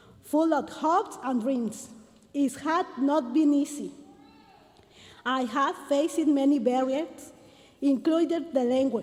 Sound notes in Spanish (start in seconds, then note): 1.4 continúa hablando en inglés